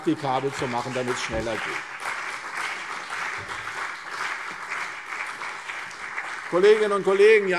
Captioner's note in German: Beifall CDU und BÜNDNIS 90/DIE GRÜNEN